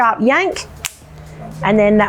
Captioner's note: shaft clicks